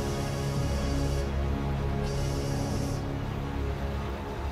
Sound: train whistle blowing

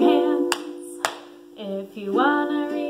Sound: hands clapping

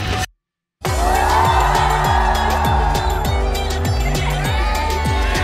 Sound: cheering

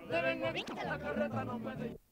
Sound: mariachi music; camera noise

